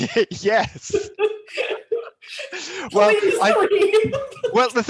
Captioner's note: laughs